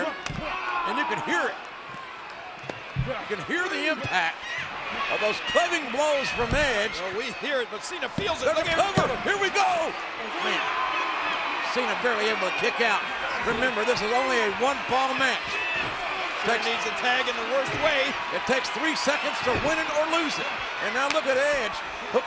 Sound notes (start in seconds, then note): 0.1 blow thudding; 8.1 hands thudding; 10.3 crowd cheering; 20.8 hands clapping